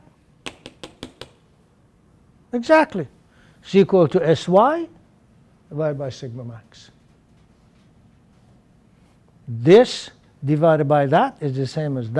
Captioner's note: tapping